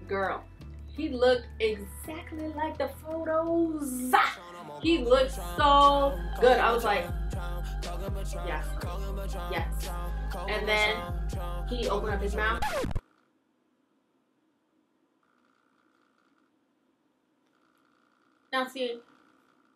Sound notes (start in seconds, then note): 11.7 record scratch